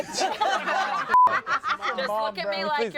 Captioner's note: everyone laughs; beep